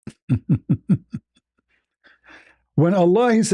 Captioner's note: ketawa